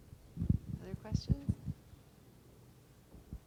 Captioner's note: voiceover